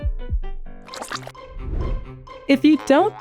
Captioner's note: transition gushing